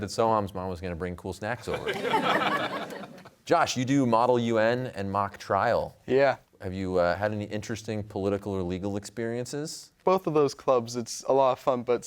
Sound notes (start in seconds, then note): 1.7 laughter